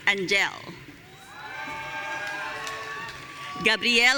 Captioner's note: audience cheering